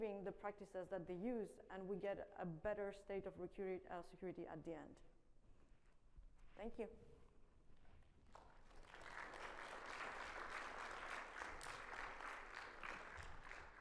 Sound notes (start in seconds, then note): 8.3 audience applauding